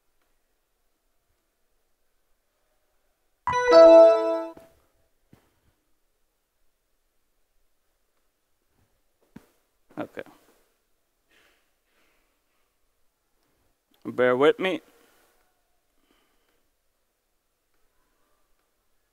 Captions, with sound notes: [DING-DING] OK. Bear with me.